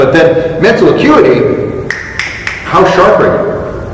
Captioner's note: finger snaps 3x